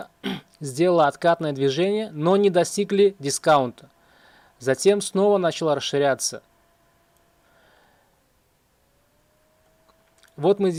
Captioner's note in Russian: откашливается